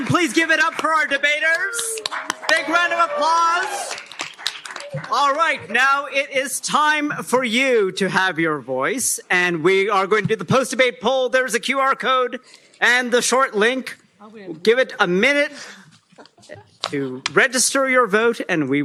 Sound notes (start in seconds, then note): 3.6 cheering, applause